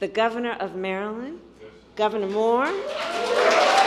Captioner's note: applause